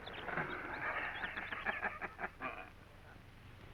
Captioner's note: laughter